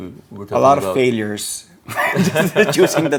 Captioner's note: laughs